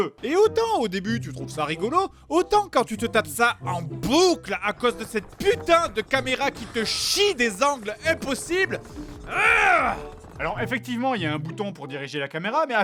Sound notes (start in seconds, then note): 9.3 groans